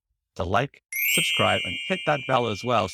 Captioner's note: bell chimes